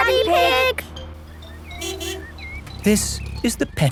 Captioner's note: honking